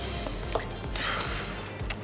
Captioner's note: sigh again